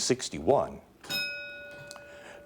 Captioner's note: bell ringing